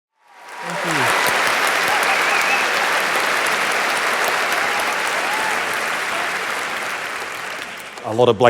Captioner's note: applause